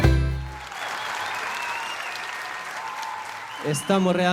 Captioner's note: applause